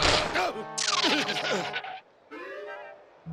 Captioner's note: skidding